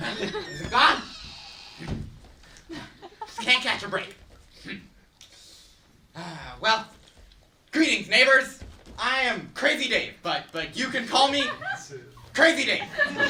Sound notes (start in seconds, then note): 0.0 loud footsteps; 6.1 sighs; 12.5 laughter